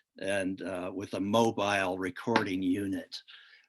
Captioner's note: none